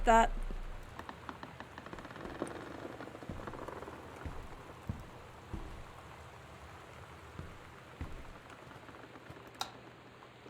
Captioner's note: door Creaking